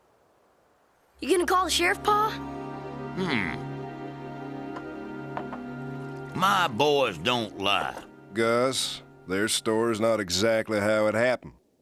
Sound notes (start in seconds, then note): none